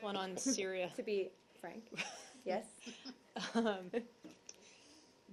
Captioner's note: laughter